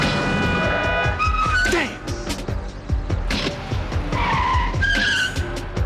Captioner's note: tires screeching